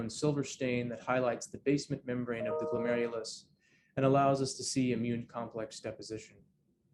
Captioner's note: computer chime